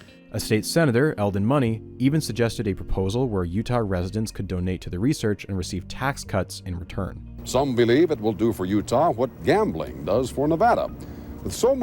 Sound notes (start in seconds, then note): none